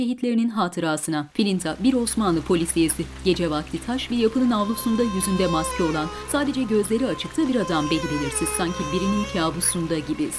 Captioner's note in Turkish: Yağmur sesi; Müzik - Gerilim